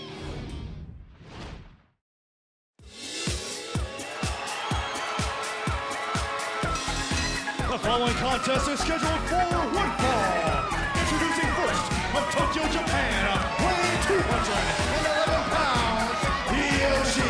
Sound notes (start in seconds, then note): 4.5 crowd cheering